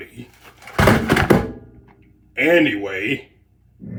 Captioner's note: crash